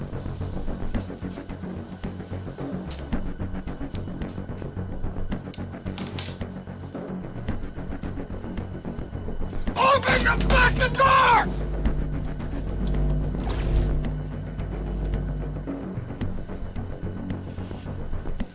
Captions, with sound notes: - Open the fucking door! (electricity whooshing) (suspenseful music continues)